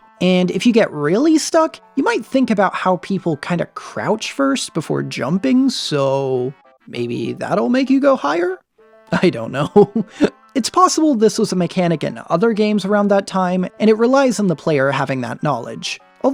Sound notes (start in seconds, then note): 9.5 chuckles